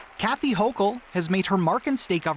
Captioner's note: applause